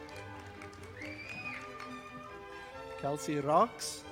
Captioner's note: audience applauding